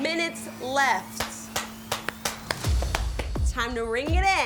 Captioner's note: judges clap